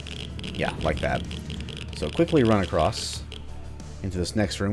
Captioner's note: geiger Counter clicking